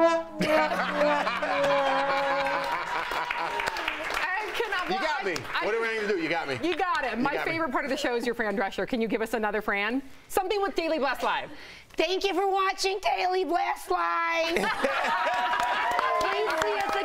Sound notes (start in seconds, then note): 10.2 laughter